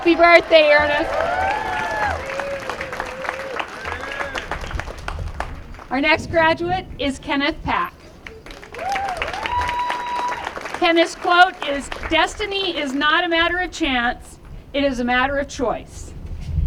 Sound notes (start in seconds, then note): 4.0 applause